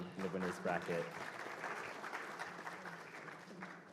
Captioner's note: applause